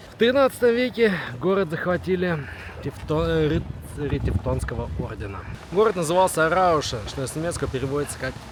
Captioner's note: Rauschen